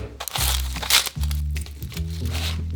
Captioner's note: onion paper rustling